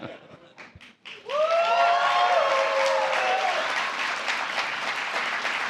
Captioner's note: applause